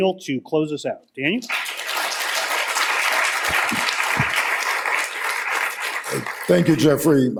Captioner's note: applause